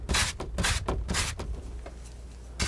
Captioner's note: tapping